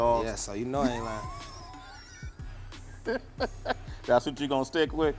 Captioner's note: laughter